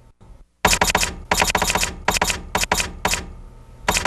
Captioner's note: typewriter clicking